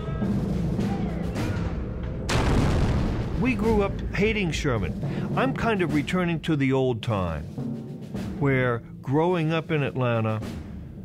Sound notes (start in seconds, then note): 2.2 canon firing